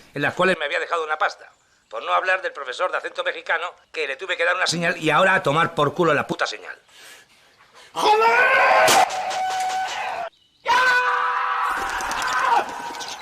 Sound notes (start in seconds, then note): 8.1 yelling